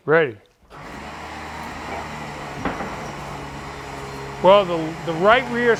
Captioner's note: winch rumbles